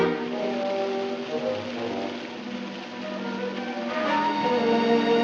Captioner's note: running water